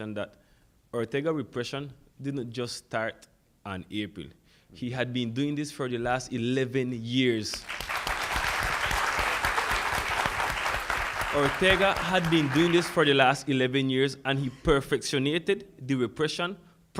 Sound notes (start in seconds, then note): 7.6 audience applauds